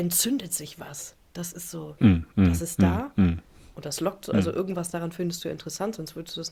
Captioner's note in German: räuspern